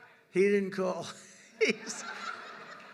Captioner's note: laughs; laughter